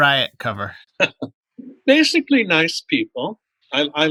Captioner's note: laughter